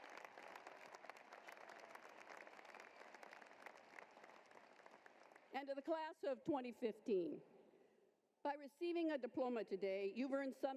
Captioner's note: applause